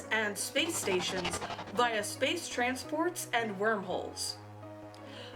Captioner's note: scifi sound effect